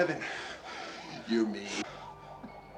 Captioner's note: siren wailing